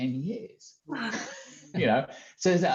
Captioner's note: all laughing